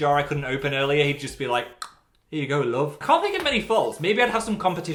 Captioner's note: click